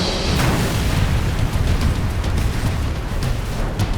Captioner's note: plane crashes